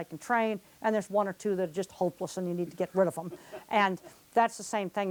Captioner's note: laughter off screen